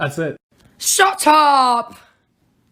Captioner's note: hoarse voice, british accent